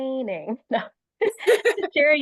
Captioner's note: laughter